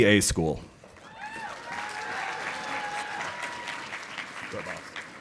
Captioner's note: audience applauding